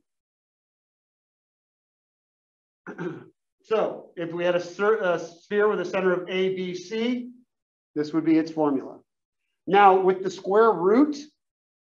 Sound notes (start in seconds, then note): 2.8 cough